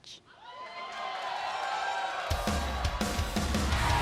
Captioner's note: crowd cheering; energetic rock music